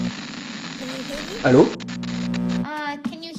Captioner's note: french phone hello